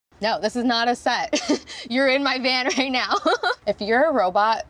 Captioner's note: laughs